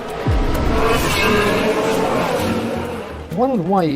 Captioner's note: race car engine roaring